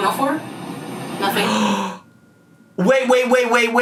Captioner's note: gasps